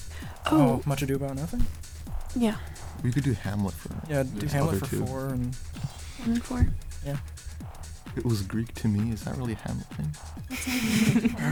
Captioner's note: whispering